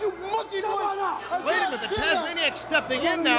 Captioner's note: crowd chatter